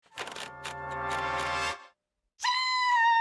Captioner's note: platen knob clicks